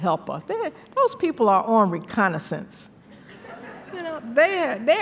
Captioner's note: laughter